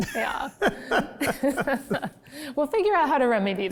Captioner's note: both laugh